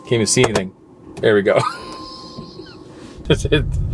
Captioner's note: laughing